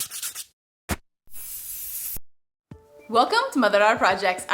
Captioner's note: paint being sprayed